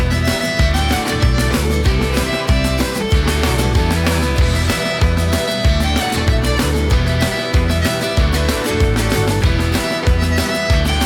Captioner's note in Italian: Applauso